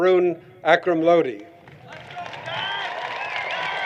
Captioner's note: applause